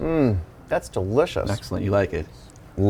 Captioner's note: none